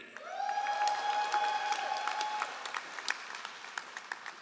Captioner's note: all applauding